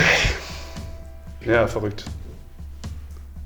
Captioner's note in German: er seufzt